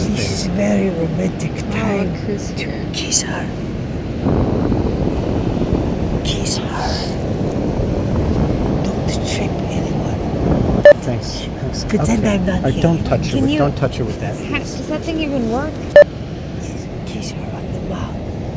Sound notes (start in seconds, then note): 4.5 wind blowing; 16.7 whispering